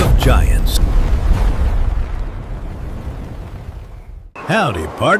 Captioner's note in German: Dinosaurier-Schritte